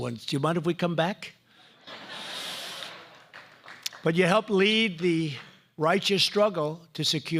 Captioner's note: laughter